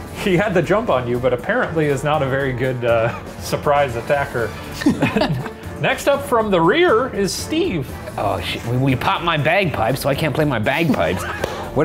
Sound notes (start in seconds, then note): 4.4 laughing